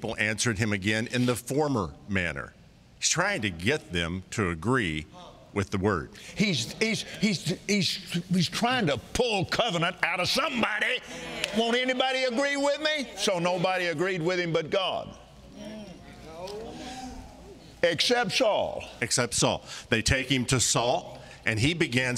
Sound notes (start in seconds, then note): 11.0 audience agreeing